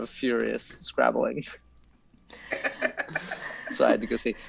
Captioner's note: laughs